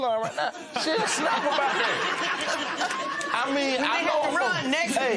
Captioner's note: laughter